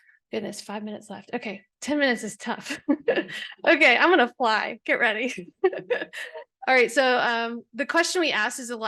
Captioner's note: laughs